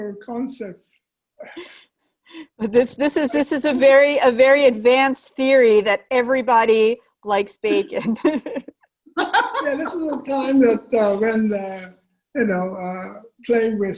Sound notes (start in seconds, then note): 9.1 laughter